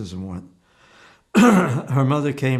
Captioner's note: clears throat